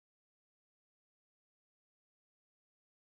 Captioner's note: none